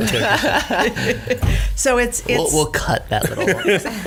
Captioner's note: laughing